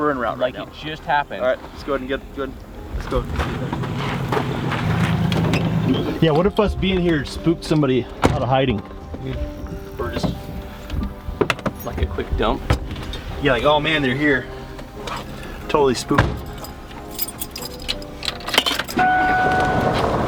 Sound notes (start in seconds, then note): 1.6 gentle music; 8.2 door slamming; 16.0 keys rattling; 16.1 door slamming; 18.4 car beeping